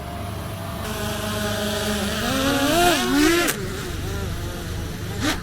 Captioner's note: drone blades whirring